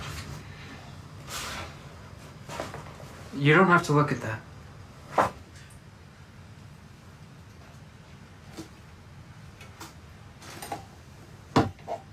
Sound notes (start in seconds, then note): none